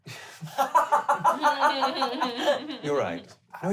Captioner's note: laughing